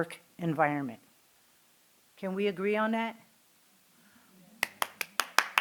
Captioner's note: applause